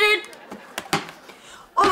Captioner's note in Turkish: Gülme efekti